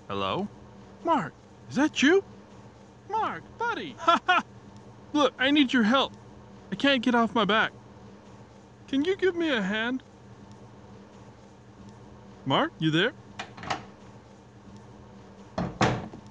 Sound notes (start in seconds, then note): 13.4 door opens